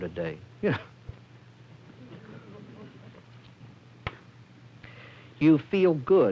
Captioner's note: laughter